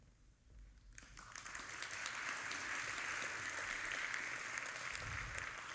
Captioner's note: audience applauding